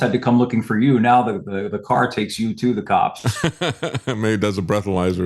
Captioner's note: laughs